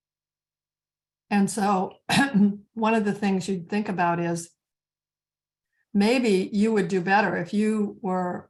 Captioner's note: clearing throat